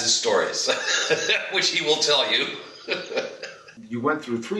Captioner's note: laughs